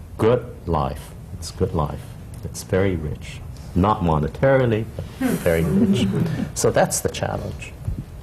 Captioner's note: laughter